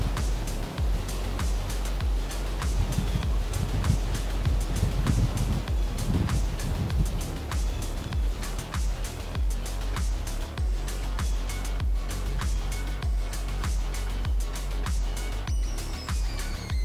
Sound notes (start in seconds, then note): 0.1 energetic techno music; 3.9 wind whooshing